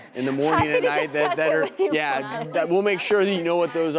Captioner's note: laughs